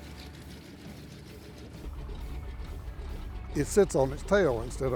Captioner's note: plane propellers whirring